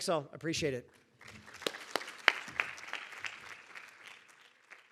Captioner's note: audience applauding